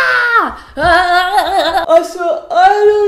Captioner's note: humping sounds